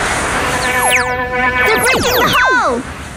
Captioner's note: laser guns blasting